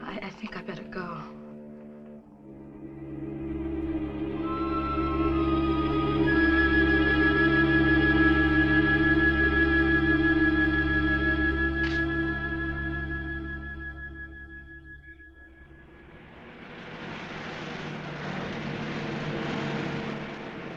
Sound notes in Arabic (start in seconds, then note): 3.4 موسيقى مشوقة; 15.5 هدير محرك السيارة